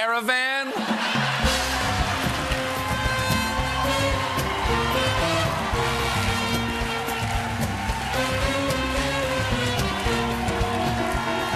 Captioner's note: cheers and applause